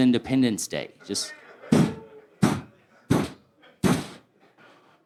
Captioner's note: poof, poof, poof, poof